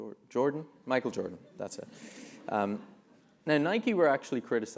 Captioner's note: laugh